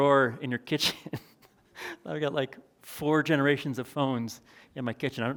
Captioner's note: chuckles